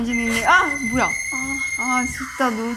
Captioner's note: ring